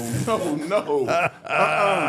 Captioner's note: Undertaker laughing